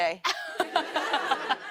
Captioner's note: laughter